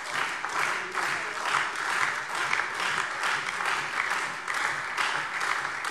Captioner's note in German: Beifall SPD, DIE LINKE und Freie Demokraten